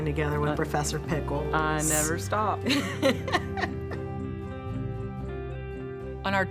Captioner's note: laughing